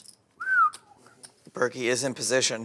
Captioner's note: whistling